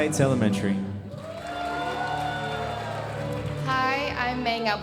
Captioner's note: audience applauding